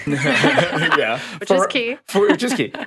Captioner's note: chuckles; podcasters laughing